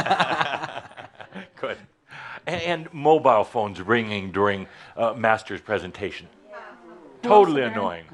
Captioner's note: they both chuckle